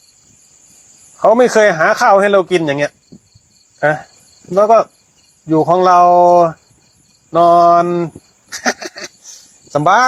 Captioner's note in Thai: เสียงหัวเราะ